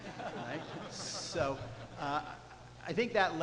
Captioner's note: audience laughs